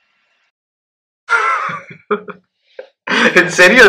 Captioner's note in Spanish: David se ríe